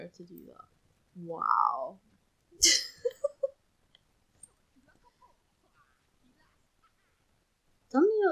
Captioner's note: laughs